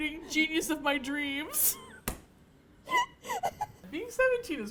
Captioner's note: laughter